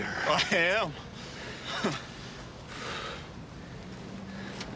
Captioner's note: laughs